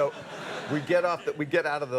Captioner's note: audience laughs